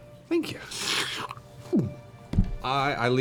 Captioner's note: slurps